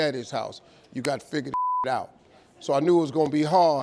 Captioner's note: beep